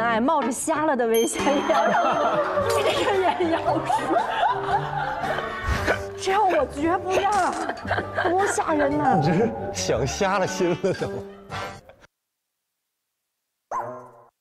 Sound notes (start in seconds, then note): 6.1 laughing hard